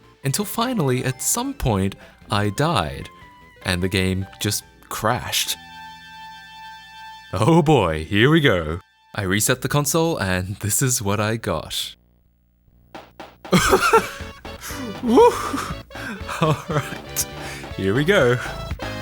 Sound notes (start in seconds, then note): 13.5 laughs